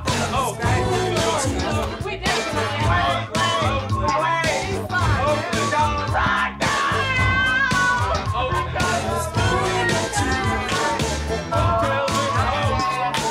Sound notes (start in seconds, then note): 3.4 people chatting; 12.5 people chatting; 12.5 upbeat funky music